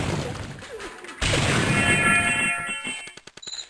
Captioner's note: metal clanking; flapping